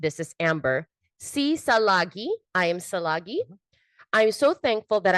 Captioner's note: speaks in foreign language